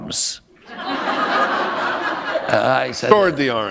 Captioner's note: laughter